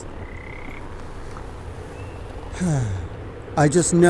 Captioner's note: frog croaks; sighs